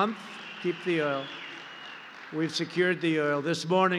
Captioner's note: applause